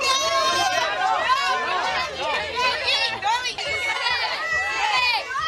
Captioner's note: crowd cheering